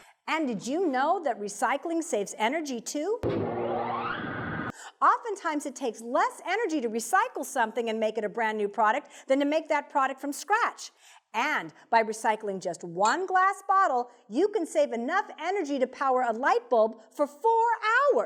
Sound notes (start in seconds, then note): 3.0 sound electric motor